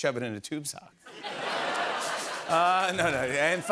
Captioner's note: laughter